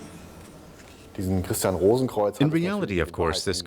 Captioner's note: speaking in German